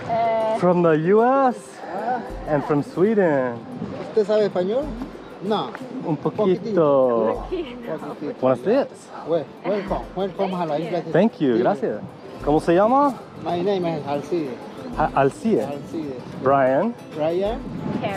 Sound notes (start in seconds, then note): 4.3 man speaking in foreign language; 8.3 speaking in foreign language; 10.0 man speaking in foreign language; 11.8 speaking in foreign language